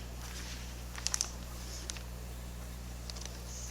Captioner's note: paper rustling